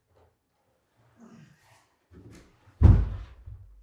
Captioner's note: grunting; cabinet thudding